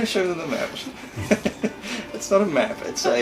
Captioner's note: lightly laughs